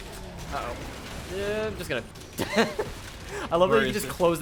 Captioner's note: laughs